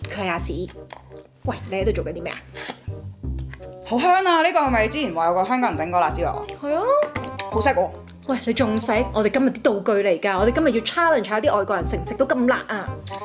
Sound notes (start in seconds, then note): 2.5 sipsipsipsipsip